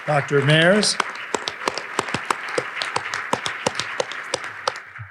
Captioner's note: audience applauding